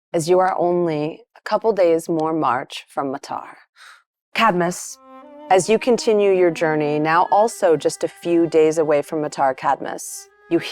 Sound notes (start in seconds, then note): none